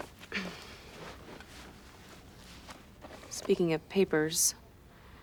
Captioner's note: coughs